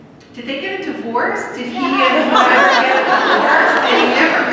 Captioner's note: laughter